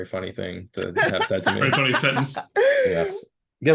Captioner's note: laughing